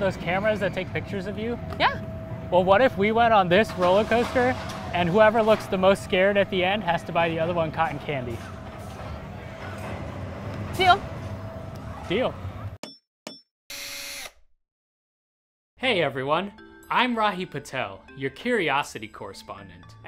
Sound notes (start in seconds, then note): 8.6 machine noises; 13.7 drill